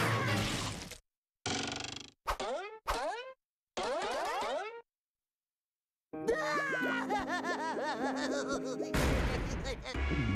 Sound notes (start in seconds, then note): 6.2 crying